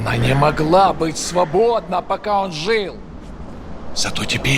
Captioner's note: speaking russian